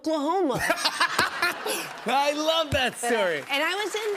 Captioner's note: laughs